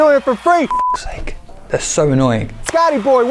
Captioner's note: beep